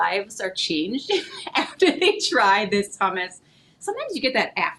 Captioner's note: laughing